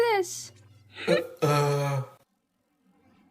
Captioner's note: Jibanyan grunts